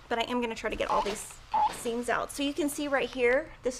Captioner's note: iron squeaks